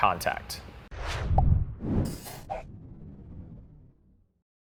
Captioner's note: logo whooshing